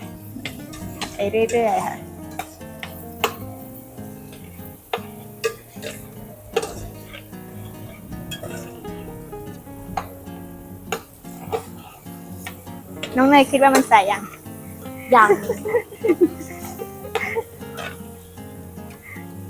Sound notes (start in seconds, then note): 15.8 laughs